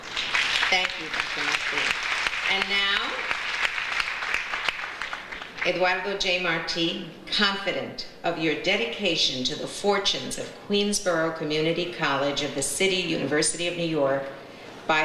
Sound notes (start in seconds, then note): 0.0 audience applauds